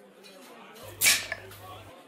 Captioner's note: cap pops